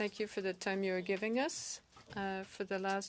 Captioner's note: speaking French